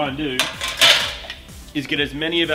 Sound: metallic clattering

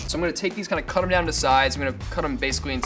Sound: none

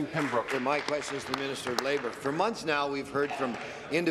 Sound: applause

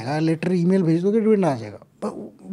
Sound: speaks In Hindi

